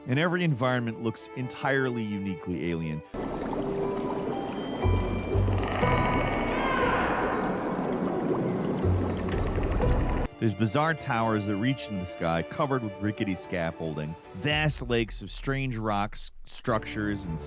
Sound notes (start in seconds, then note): 3.0 water bubbling; 3.2 majestic music